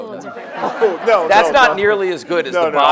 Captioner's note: audience laughs